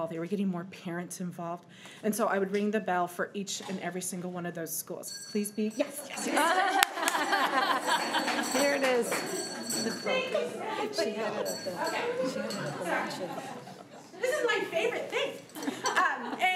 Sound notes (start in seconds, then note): 6.9 bell ringing; 7.8 crowd giggling